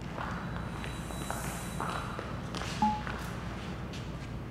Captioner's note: footsteps tapping